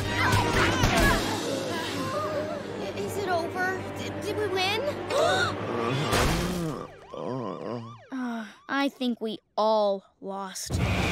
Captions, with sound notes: Is it over? Did we win? [gasping] [groaning] I think we all lost.